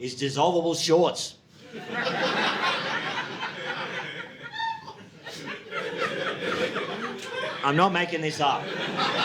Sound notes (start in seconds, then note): 1.7 audience laughing